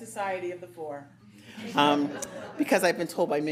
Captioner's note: audience laughing